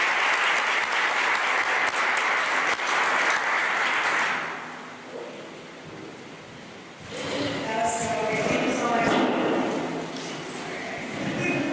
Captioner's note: applause